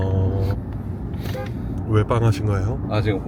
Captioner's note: honks horn